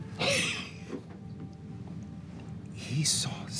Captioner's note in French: rire